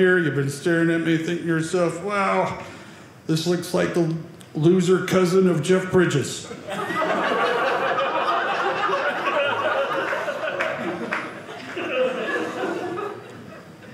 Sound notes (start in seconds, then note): 6.5 audience laughing